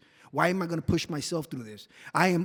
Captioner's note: none